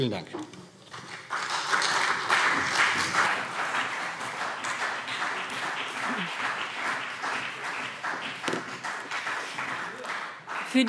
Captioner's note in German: Beifall